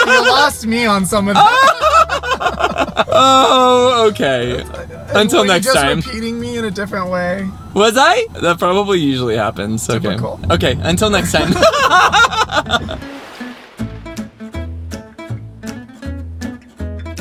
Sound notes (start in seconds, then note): 11.3 everyone laughs